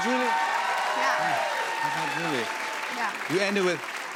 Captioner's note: cheers and applause